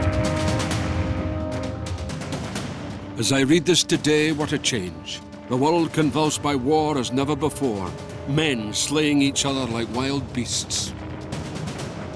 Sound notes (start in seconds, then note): 3.8 Voz en off